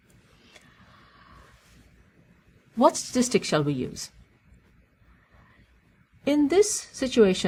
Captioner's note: pause